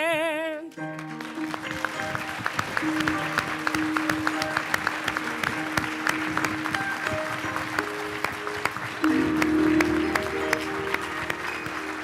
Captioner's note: applause